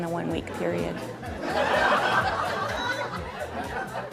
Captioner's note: laughter